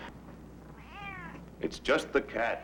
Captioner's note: cat meowing